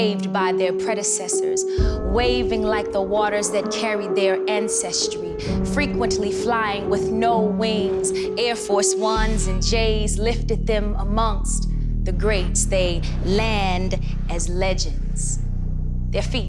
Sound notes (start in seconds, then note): none